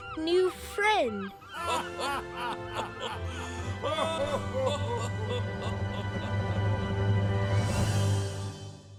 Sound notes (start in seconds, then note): 0.8 all laugh